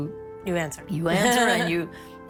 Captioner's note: laughs